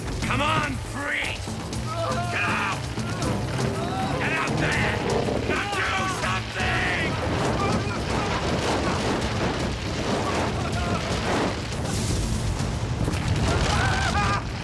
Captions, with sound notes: COME ON, COME ON, PRIEST. GET OUT! (groaning) GET OUT THERE! NOW DO SOMETHING!